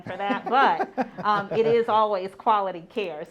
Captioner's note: laughs